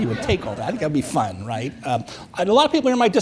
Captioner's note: audience chuckles